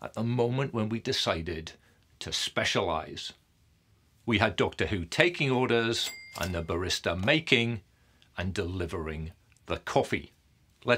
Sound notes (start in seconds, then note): 6.0 cash register ringing